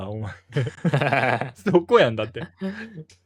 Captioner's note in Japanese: 笑い